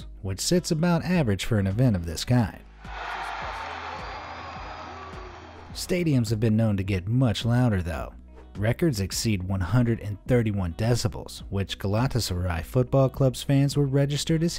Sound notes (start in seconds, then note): 2.8 audience cheers